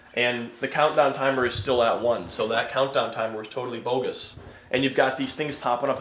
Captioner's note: none